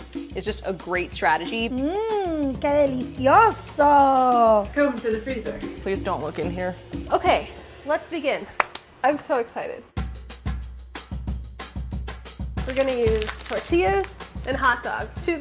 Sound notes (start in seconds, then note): 8.6 claps; 10.0 upbeat music